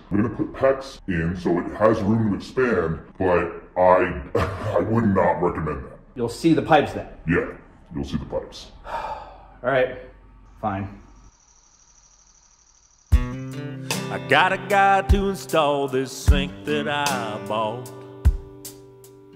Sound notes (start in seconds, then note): 4.0 laughs; 8.8 sighs